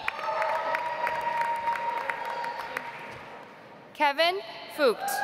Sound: audience applauds

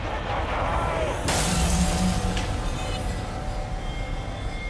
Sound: skull shattering

